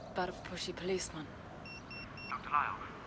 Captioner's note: beep beep beep